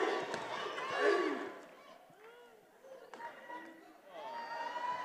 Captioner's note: attendees cheering